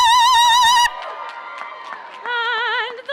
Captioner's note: audience cheers and applauds